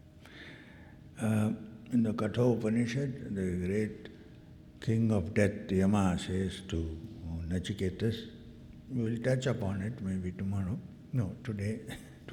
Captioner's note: sighs